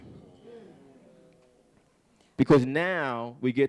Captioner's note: audience chattering